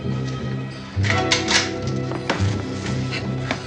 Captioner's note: rifle cocks